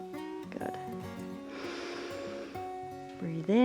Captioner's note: inhales